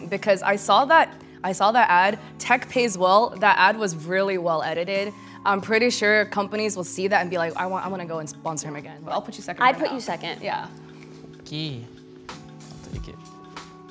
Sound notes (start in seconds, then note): none